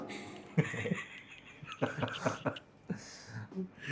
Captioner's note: laughs